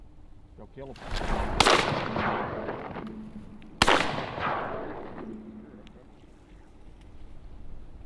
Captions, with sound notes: Ya’ll killem! (gunshots)